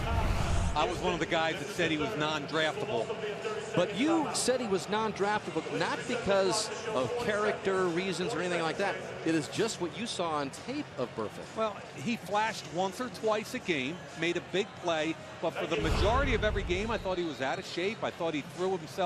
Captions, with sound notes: either. I was one of the guys that said he was non-draftable. [pa announcement] But you said he was non-draftable not because of character reasons or anything like that. It is just what you saw on tape of Burfict. Well, he flashed once or twice a game, made a big play. But for the majority of every game, I thought he was out of shape.